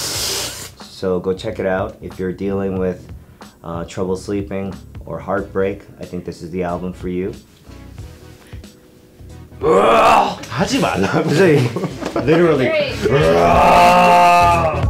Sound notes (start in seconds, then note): 9.6 growling; 9.7 speaking in foreign language; 13.1 growls